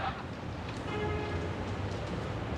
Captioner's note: horn honking